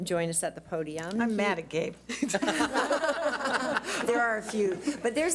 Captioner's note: audience laughs